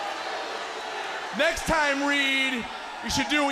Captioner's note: crowd cheering